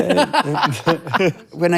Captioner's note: laughing